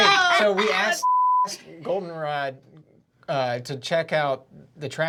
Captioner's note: beep